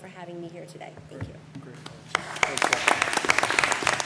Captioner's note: applause